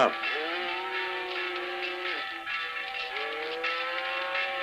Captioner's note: bull lowing